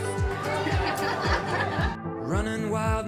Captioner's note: laughing